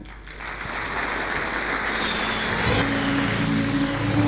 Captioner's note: applause